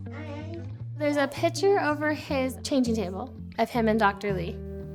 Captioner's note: voice-over